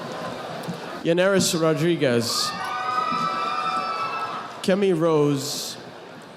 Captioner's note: audience applauding